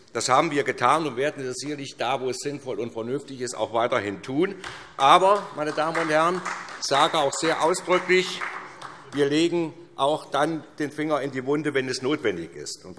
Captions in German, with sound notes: Das haben wir getan, und das werden wir sicherlich da, wo es sinnvoll und vernünftig ist, auch weiterhin tun. (Beifall SPD) Aber, meine Damen und Herren, sie hat auch sehr ausdrücklich gesagt: Wir legen den Finger dann in die Wunde, wenn es notwendig ist -